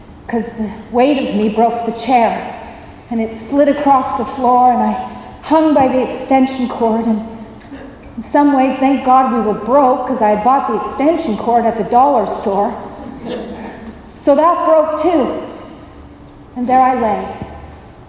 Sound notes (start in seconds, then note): 13.0 laughter